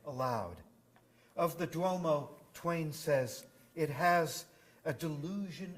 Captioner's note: none